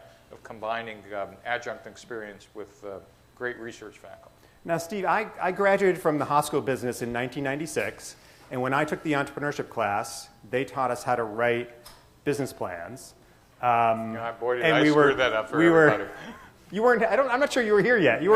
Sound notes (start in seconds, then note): 15.7 chuckles